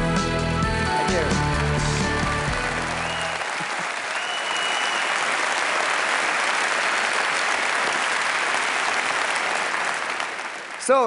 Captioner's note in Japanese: 拍手